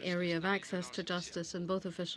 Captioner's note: speaking french